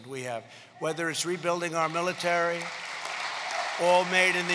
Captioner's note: applause